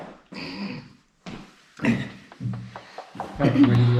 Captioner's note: feet clunking; man clears throat